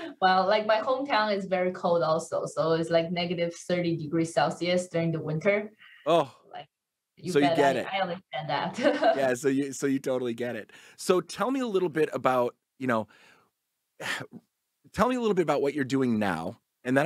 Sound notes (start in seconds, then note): 8.7 laughs